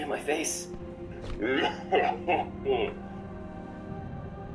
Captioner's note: laughs